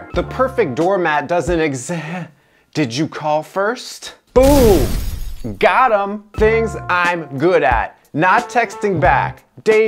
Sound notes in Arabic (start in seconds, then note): 4.4 قنبلة تنفجر